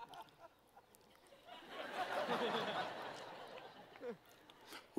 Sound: laughing

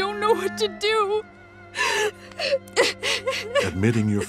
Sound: sobbing

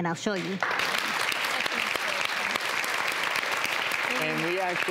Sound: audience claps

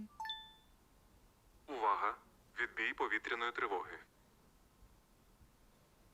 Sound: phone notify

